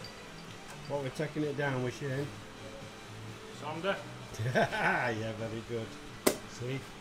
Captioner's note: laughing